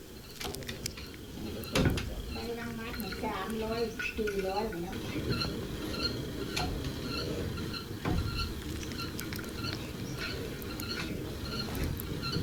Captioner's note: non-english speech